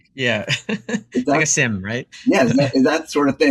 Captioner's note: laugh